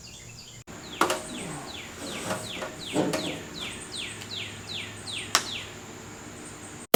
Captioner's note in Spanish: pajarito chirriando